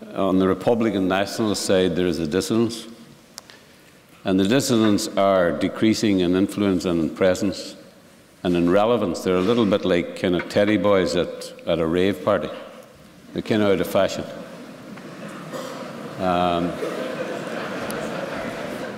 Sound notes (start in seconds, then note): 14.5 laughter